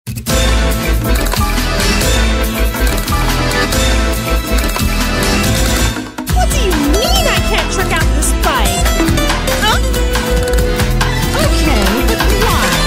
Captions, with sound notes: From the world of Senran Kagura... ... to the world of VTubers! Sadistic_Haruka! "What do you MEAN, I can't trick out this bike?!" *bonk* "AA--" "Okay, but WHY?"